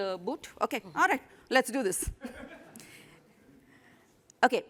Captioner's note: laughter